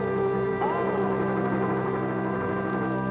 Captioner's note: crowd